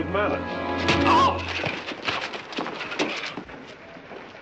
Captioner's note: yells